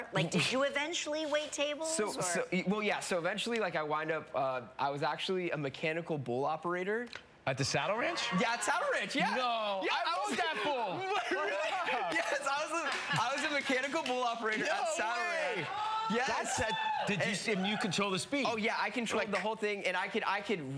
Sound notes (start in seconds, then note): 11.2 both exclaiming